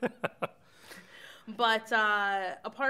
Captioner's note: chuckles